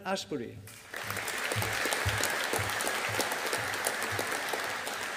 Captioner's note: audience applauding